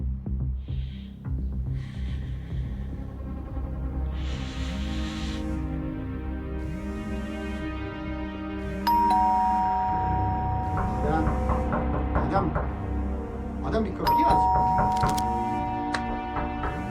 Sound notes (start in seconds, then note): 0.5 deep breathing; 6.5 phone vibrates; 8.8 doorbell rings and knocking; 14.8 gun cocked